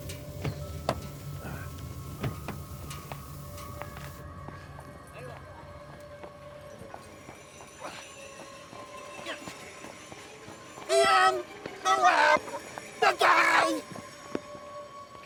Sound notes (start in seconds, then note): 1.0 eerie music; 5.7 people chattering faintly